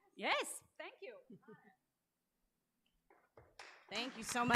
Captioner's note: applause